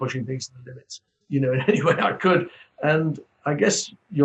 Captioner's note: laughs